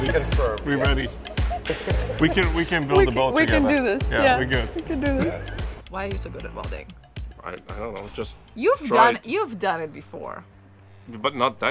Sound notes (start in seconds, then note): 5.0 laughing